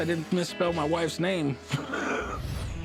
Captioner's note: laughs